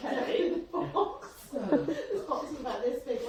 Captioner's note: laughing